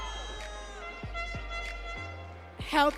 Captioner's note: audience cheering